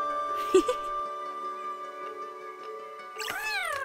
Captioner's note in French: rire